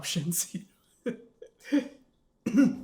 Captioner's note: nervous laugh